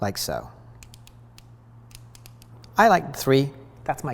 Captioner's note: device clicking